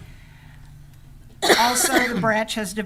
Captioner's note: coughing